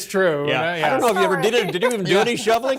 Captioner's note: laughter